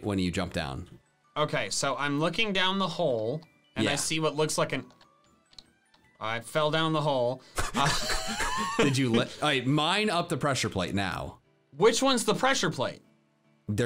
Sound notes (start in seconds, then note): 7.6 laughing